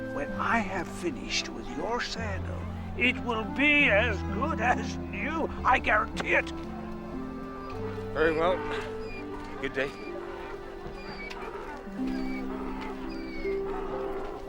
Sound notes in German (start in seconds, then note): 10.9 Esel jammert